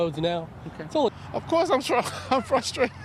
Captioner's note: laughter